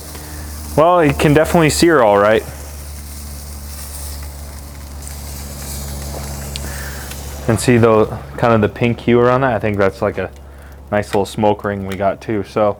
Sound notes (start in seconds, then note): 2.8 filets searing